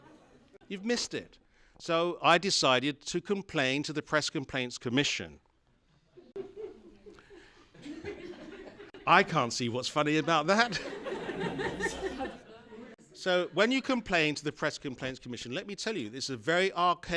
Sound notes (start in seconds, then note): 6.2 laughter from audience; 10.5 more laughter